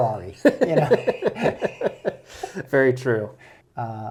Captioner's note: laughs